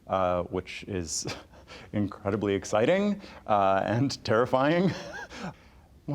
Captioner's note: chuckling